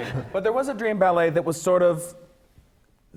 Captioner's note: laughs